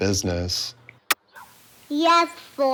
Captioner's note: tape clicks